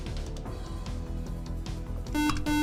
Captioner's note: buzzer